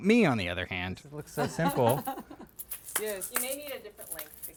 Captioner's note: laughter